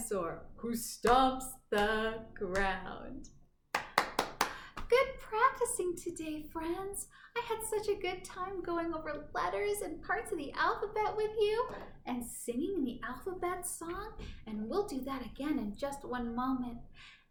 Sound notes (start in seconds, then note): 3.7 clapping